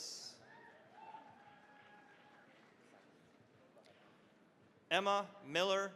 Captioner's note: cheering, applause